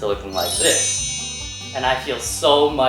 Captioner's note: chimes